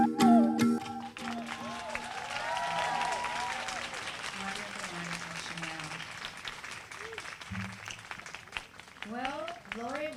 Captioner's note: applause